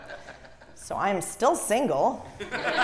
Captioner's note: laugh